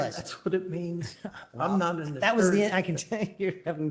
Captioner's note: laughter